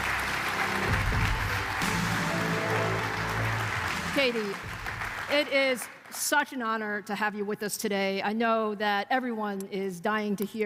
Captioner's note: applause